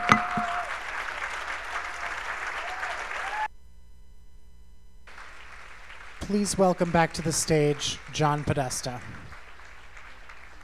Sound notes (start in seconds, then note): 5.1 cheers and applause